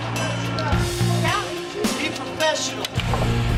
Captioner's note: chatter; background chatter